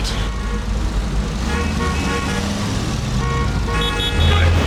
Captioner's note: car horns beeping